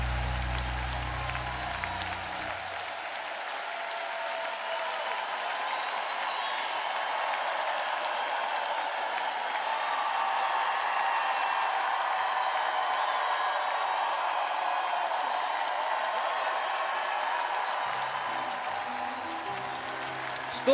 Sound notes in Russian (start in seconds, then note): 2.5 ликование